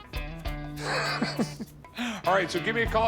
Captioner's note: laughs